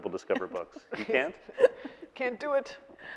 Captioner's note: laughing